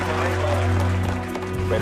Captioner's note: crowd cheering